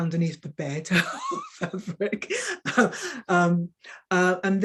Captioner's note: woman chuckling